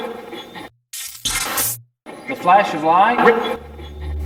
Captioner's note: electronic effect